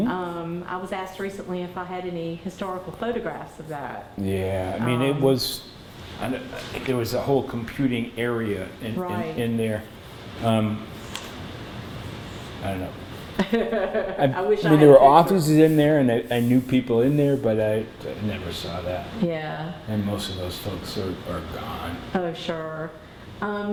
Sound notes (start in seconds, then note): 13.3 laughter